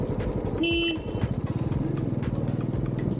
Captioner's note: horn beeps